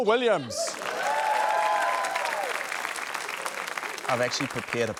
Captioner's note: laughter; cheering, applause